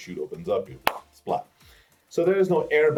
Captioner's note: claps